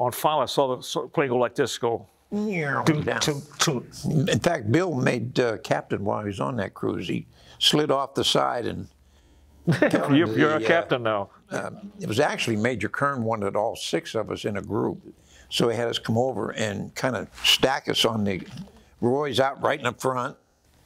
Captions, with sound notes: And finally, I saw the plane go like this, go (imitates plane). - In fact, Bill made captain while he was on that cruise. He slid off the side and- - (laughs) You're a captain now. - It was actually Major Kern wanted all six of us in a group, so he had us come over and kind of stack us on the, Roy's out right in the front.